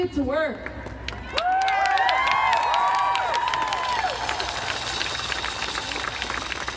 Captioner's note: crowd cheering and applauding